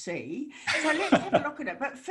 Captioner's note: laughs